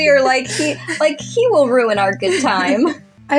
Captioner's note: laugh